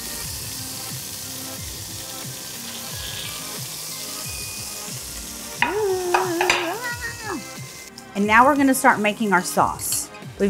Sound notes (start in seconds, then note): 5.6 exclaims